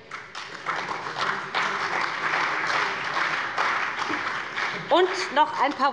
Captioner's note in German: Beifall bei BÜNDNIS 90/DIE GRÜNEN und der CDU